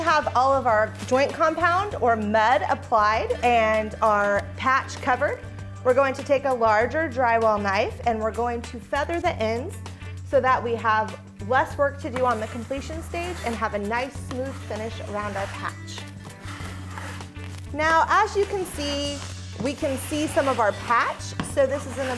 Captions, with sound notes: Once we have all of our joint compound or mud applied and our patch covered, we're going to take a larger drywall knife, and we're going to feather the ends, so that we have less work to do on the completion stage, and have a nice smooth finish around our patch. (drywall knife scrapes) Now, as you can see, we can see some of our patch.